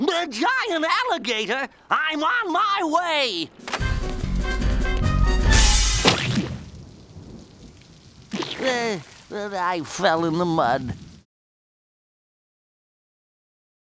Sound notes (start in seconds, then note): 3.6 action music; 5.5 window crashes; 5.6 mud squelches; 7.2 rain trickles